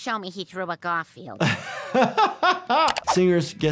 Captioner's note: laughs